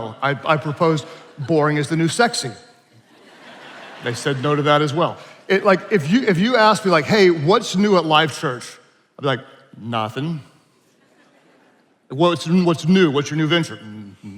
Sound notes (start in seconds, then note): 3.0 attendees laughing; 10.9 attendees laughing